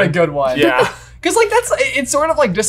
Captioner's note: laughing